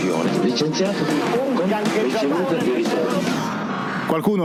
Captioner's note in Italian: voci TV